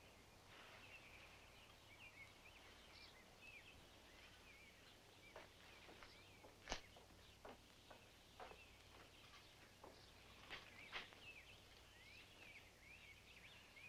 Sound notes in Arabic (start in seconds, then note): 1.8 تغريد الطيور